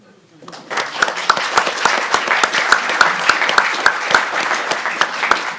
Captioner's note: audience and panelists applaud